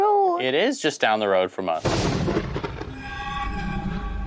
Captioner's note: lightning strikes